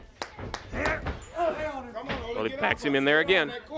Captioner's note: crowd chatter